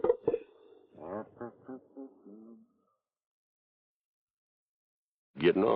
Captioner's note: Carney hums melodically